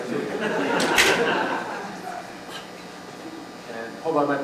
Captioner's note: laughter